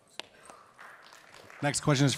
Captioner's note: audience applauds